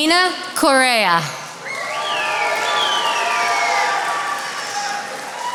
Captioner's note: attendees applauding